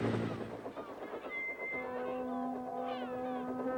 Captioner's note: peeps